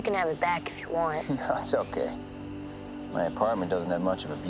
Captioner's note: chuckles